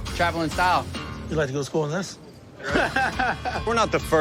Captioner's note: laughs